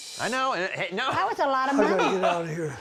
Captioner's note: laughing